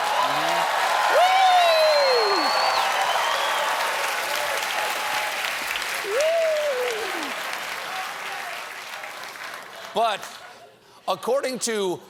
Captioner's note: cheers and applause